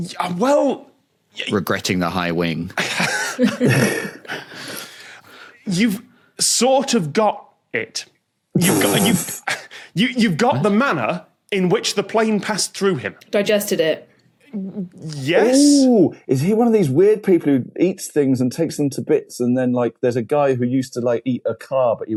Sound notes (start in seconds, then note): 2.7 group chuckling; 8.4 rasps